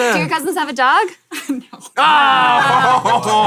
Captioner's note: laughs; everyone groans